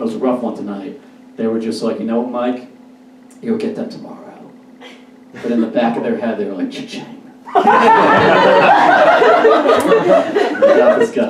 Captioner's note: audience Laughs